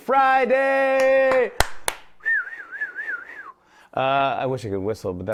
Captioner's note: whistles